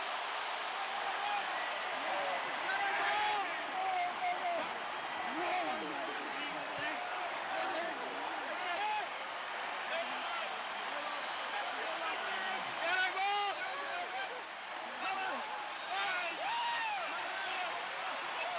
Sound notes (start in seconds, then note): 3.8 applause; 4.1 cheering and Applause